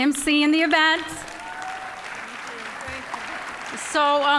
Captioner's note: cheering, applause